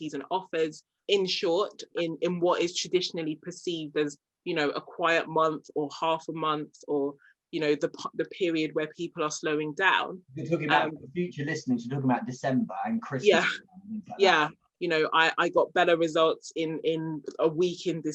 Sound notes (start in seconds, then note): 10.3 murmurs